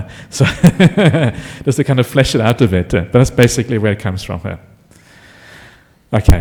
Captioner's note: laughs